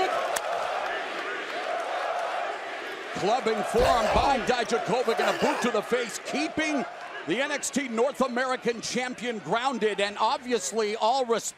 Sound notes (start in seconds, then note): 1.9 crowd cheering